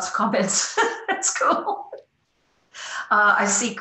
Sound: chuckles

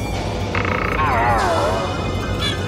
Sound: creak

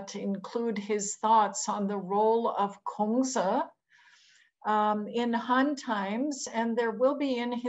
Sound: non-english

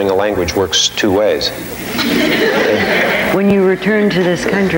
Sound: audience laughing

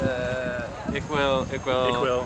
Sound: speaks in foreign language

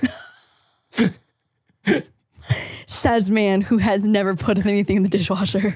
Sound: both laughing

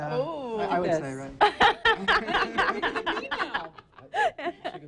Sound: laughs

